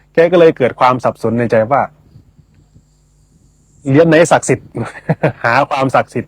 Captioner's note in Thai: เสียงหัวเราะ